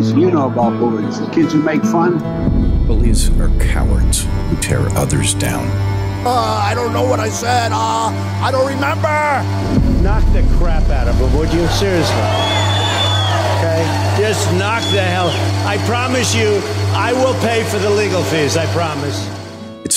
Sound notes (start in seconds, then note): 12.7 crowd cheers